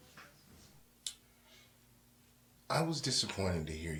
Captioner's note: rubber band snap